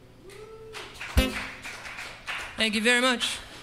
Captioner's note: cheering and applause